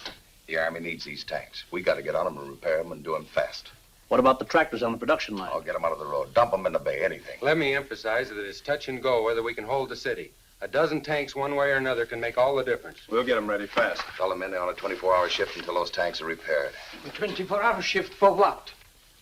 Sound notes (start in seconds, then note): none